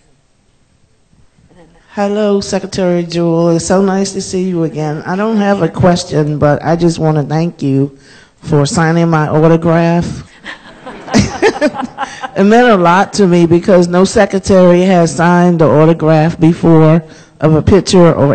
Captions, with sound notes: No right here. Yea. And then that. Thank you very much. Hello Secretary Jewell, so nice to see you again. I don't have a question, but I just want to thank you for signing my autograph. (Laughter) It meant a lot to me, because no Secretary has signed an autograph before of a picture